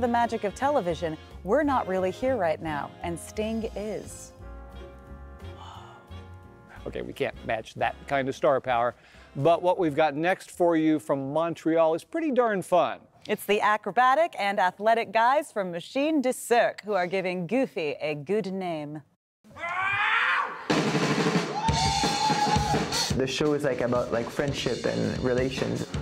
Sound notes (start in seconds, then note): 19.5 shouts